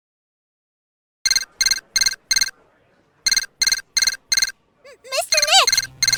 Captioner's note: transceiver beeping!